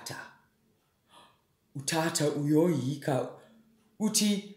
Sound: gasp!

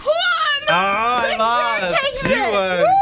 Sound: ding!

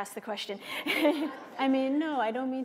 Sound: laughter

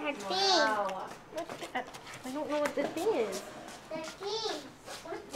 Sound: background chatter

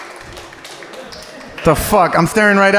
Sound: audience applauding

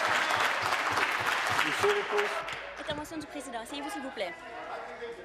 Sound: applause

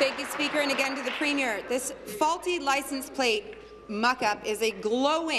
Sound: applause

